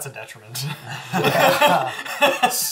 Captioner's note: all laugh